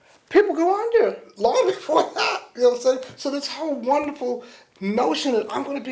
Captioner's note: laughs